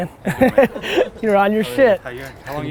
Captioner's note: laughs